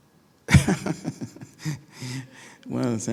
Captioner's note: laughing